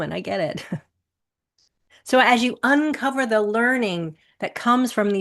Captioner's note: chuckles